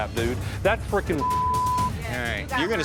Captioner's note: beep